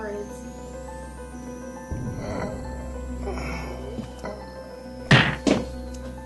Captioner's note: groan